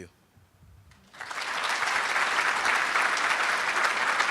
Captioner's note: applauding